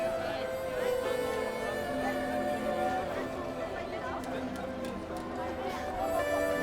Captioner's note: gentle thoughtful music; townspeople chattering